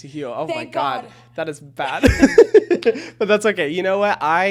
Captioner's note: chuckles